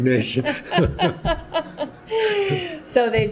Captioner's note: laughter